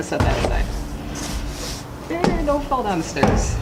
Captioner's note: clanging